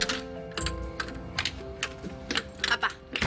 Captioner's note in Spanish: Sonido al abrir y cerrar la puerta